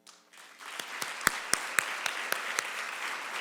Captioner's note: clapping